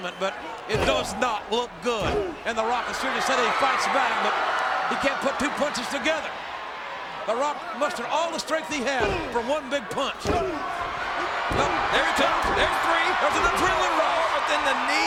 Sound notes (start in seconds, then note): 10.6 wrestlers grunting